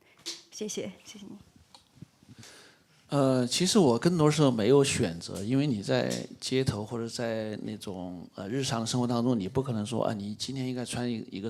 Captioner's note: speaks in Mandarin